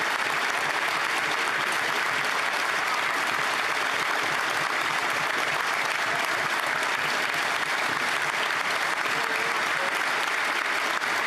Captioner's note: applause